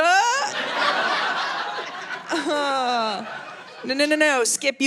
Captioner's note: audience laughing